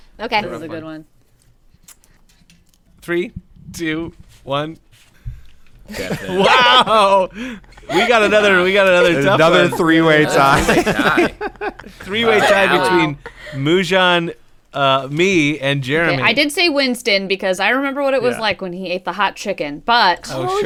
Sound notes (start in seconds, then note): 4.9 crew flips papers; 5.9 laughter